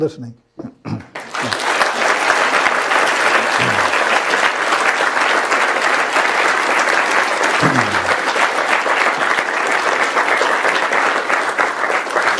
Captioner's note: applause